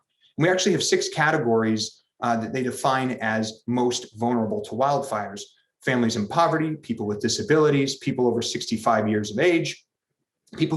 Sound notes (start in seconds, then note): none